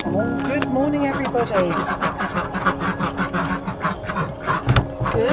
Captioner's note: ducks quacking